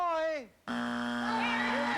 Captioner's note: buzzer